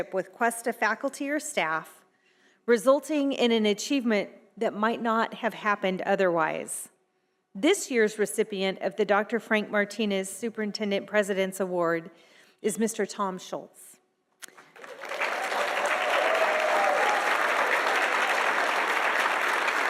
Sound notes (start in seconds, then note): 14.5 audience applauding